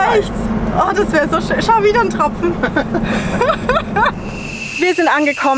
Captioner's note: laughter